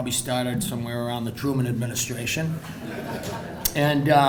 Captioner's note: crowd laughing